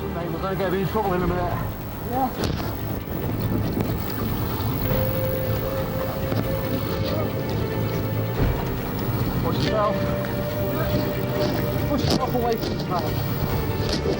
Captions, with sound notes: - Mate, we're gonna get in trouble in a minute. - Yeah. (wind whooshing) (water splashing) (intense music) (water whooshing) Watch yourself. (water whooshing) (intense music) Push yourself away from it, Kyle.